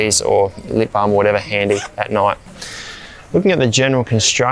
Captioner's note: zipper does up